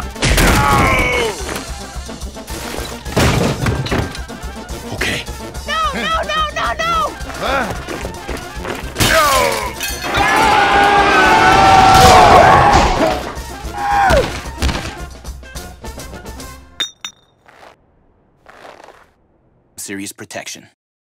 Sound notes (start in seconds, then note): 7.4 confused Korean Sounds; 10.0 korean, Brazilian, and French screaming; 16.8 plate impact sound